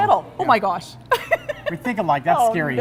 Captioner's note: laughing